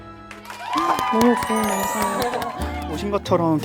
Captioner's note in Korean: 모두 박수